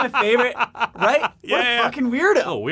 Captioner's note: laughs